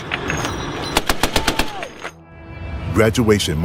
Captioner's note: metal clicking; weapon firing